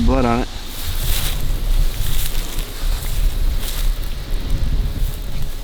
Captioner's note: sound of walking